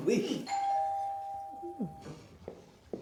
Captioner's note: door bell RINGING